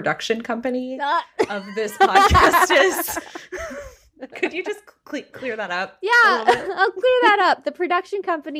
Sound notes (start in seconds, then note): 5.0 laughing